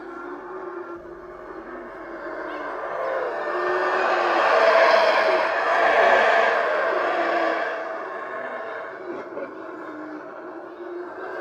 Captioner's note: howl of the howler monkeys